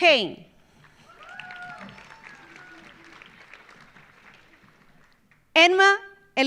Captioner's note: audience applauding; audience cheering